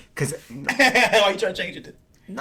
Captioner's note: laughing